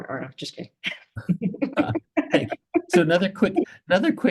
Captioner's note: audience chuckling